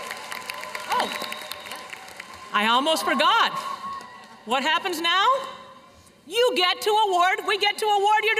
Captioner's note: cheers and applause